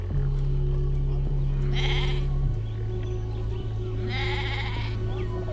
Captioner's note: goat bleats